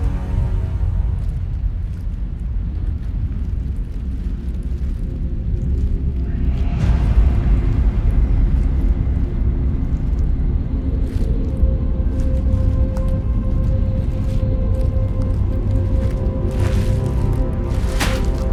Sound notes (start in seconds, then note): 0.0 tense music; 2.0 suit rustling; 7.5 somber music; 12.0 suit rustles; 12.3 somber music continues